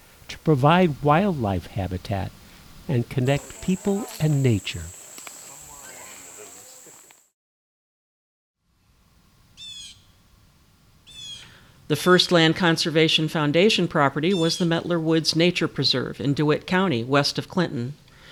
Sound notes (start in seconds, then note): 2.8 hikers talking; 9.5 blue jay calling